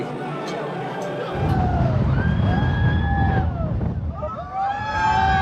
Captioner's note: riders screaming